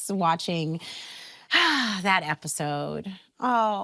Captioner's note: sighs deeply